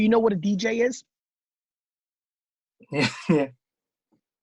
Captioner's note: laughing